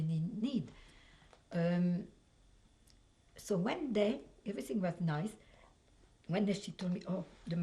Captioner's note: pauses for 3 seconds